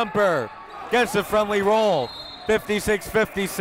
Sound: whistle blows

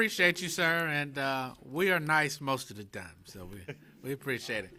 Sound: laughter

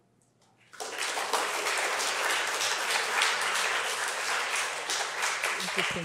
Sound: applause

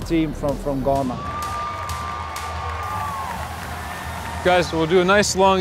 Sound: crowd cheering

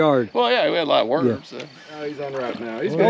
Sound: chuckling

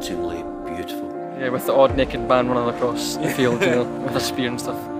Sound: laughter

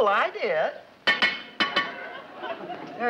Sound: metal clanking

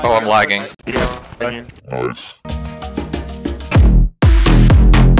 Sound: gun firing; upbeat music

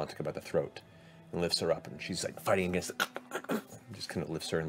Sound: choking

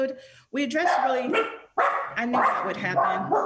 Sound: dog barking

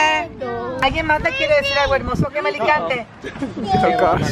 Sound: speaking in foreign language

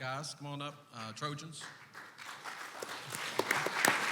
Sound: clapping

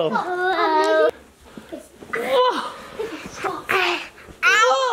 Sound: baby babbling

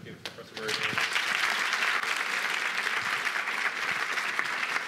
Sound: applause

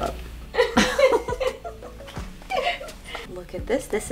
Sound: laughs loudly

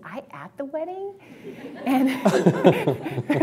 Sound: laughter

